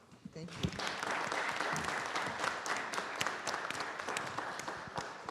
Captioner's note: audience applauding